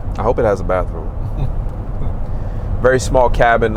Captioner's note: soft laughing